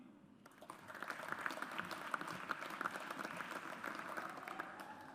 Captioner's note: audience applauds